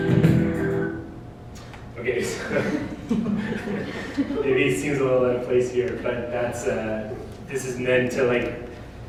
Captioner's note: laughter